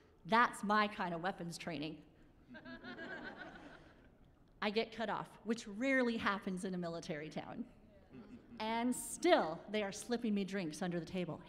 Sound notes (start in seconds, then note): 2.5 laughing